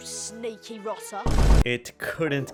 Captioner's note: vine boom sfx x3